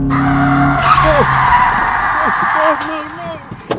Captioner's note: brakes screeching; John screams